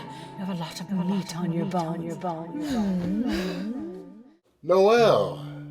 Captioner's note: echoes